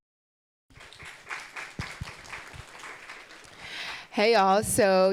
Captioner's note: audience applauding